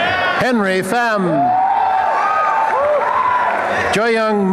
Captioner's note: applause and cheering